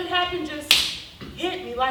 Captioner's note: fist slapping